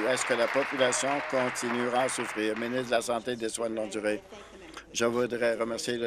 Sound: applause

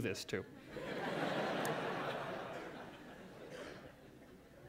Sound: laughter

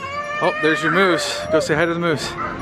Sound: child yelling

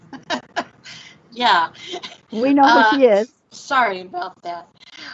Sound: laughs

